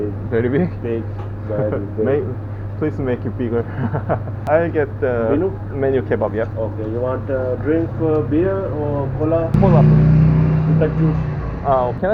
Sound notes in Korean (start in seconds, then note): 3.5 웃음